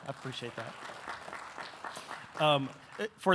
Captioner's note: audience applauding